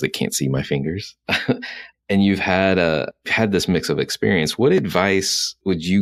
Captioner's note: laughs